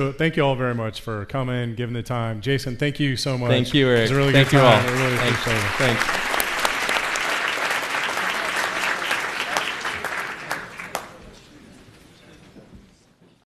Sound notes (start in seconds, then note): 6.7 audience applauds